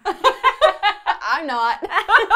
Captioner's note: laughter